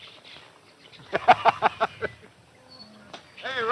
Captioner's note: laughs